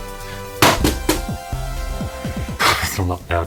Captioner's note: object thudding